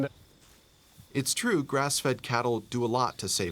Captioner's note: voiceover